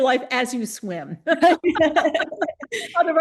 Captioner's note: laughter